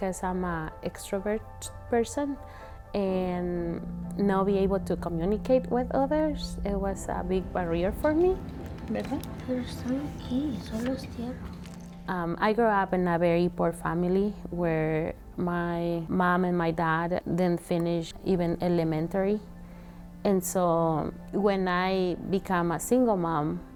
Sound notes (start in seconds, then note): 8.5 speaking in Spanish